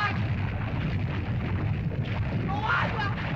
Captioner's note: lava bubbles & flows